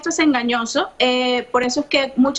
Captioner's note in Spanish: audio en ingés